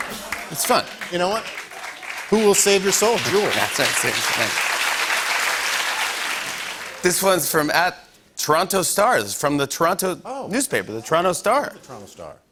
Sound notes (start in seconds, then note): 5.5 applause